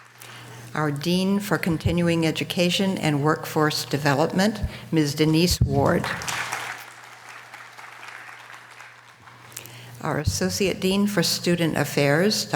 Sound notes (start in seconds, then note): 6.0 audience applause